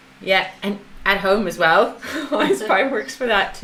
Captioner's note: laughs